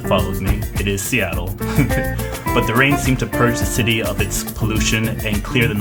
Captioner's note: laughs